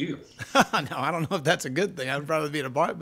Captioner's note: chuckles